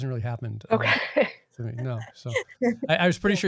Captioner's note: laughing